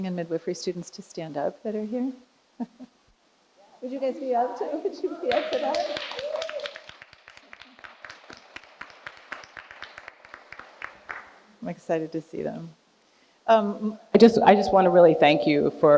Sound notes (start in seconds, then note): 6.6 audience applauding